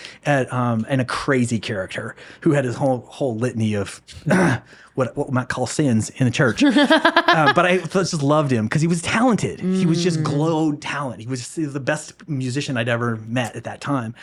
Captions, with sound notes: and a crazy character who had his whole litany of, what might call sins in a church. (laughing) But I just loved him because he was talented. He was just glowed talent. He was the best musician I'd ever met at that time.